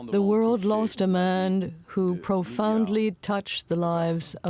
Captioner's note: speaking French